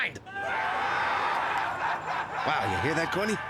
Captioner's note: crowd laughing